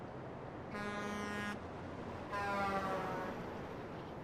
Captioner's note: horns honking